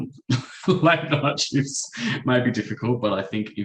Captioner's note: chuckles